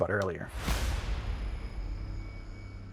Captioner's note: impact sound